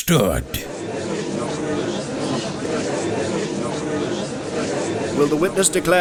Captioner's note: gallery chattering